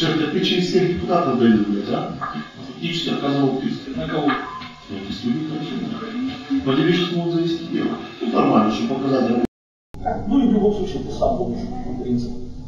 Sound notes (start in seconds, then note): 9.0 laughs